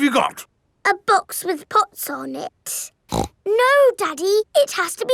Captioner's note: snorts